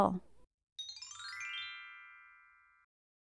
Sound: chime sound

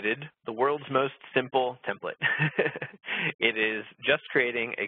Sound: laughs

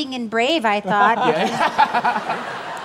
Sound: laughter

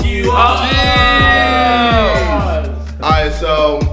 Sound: cheering

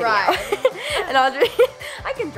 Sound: laughs

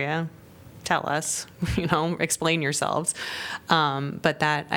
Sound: laughter

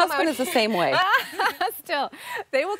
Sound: laughing

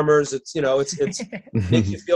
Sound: laughing

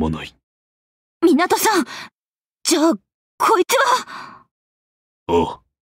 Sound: gasping

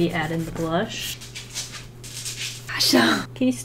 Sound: dog scuffling

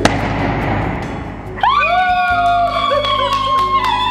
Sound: cheering

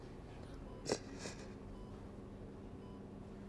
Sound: sniffling

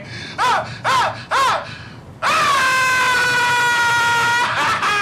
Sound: Jordan yelping and yelling

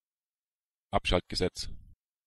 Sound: fast Pronunciation

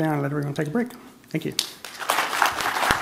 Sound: applause

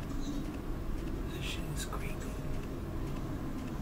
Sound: whispers

